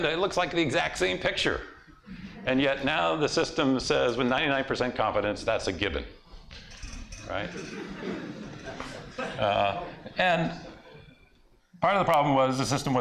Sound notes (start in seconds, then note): 7.4 laughter